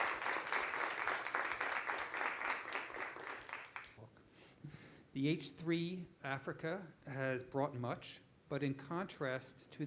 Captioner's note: applause